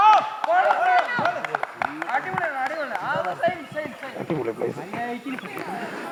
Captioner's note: cheers